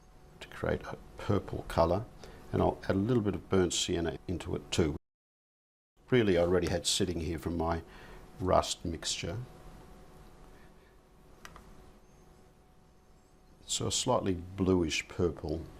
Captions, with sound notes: To create a purple colour, and I'll add a little bit of burnt sienna into it too. [silence] Really, I already had sitting here from my rust mixture. [silence] So a slightly bluish purple.